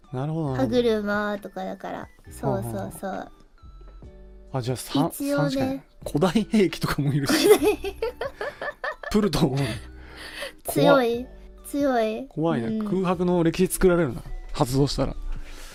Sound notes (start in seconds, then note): 7.2 laughs